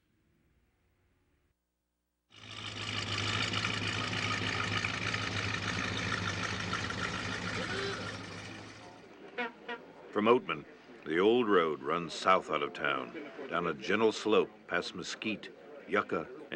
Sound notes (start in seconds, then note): 2.3 engine running; 9.3 car honks